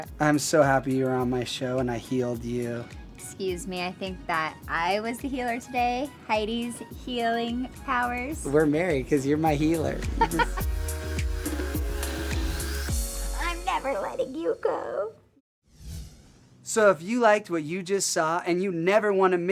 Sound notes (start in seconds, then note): 10.0 laughs; 11.8 upbeat music